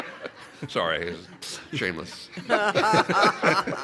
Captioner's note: laughter